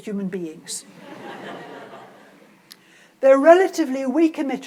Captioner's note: audience laughs